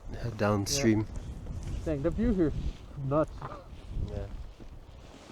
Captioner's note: chuckles